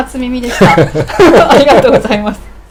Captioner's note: laughing